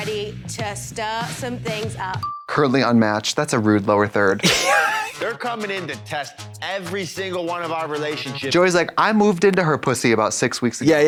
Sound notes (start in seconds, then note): 4.4 Katya titters